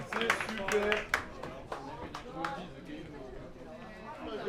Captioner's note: crowd chattering